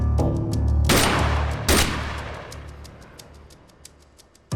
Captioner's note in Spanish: Disparos